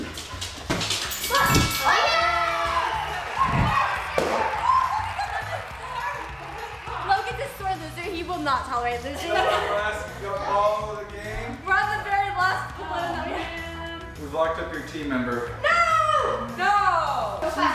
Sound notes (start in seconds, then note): 1.1 bell chime; 1.8 screams excitedly; 4.2 balloon pops; 5.3 excited mumbling